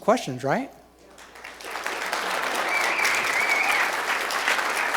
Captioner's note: applause